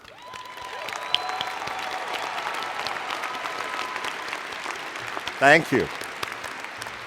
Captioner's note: cheers and Applause